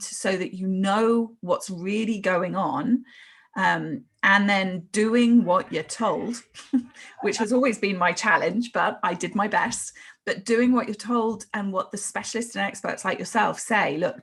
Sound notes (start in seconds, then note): 6.6 laughs